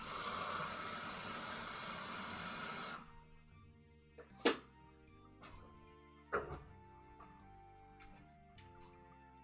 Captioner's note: tea making sounds